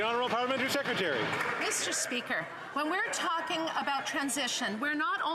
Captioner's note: applause